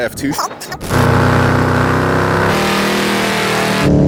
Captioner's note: engine running